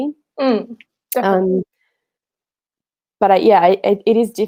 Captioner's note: groaning